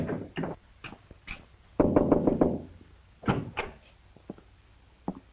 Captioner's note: knocks